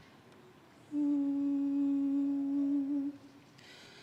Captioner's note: humming